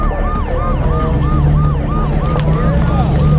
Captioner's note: siren wailing